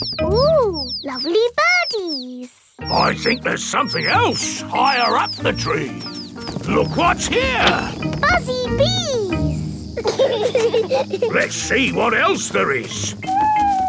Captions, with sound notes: Ooh, lovely birdies! I think there's something else higher up the tree. Look what's here! Buzzy bees! (BEES BUZZING) Let's see what else there is.